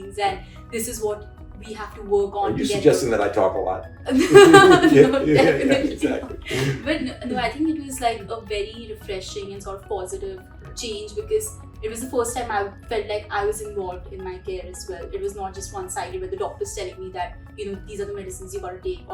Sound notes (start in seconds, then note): 4.0 laughs